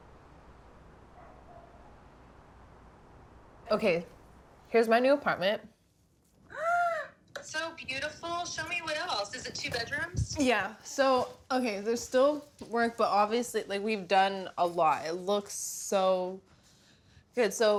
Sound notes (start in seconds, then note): 1.1 dog barks; 6.6 gasps